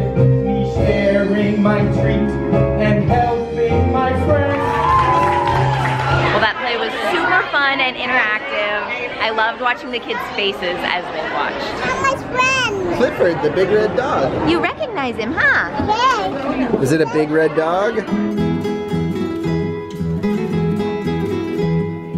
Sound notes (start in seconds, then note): 4.5 audience applause; 11.7 babytalks; 17.9 lighthearted band music